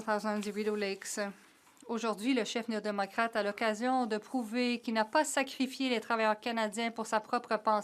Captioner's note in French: voix de l'interprète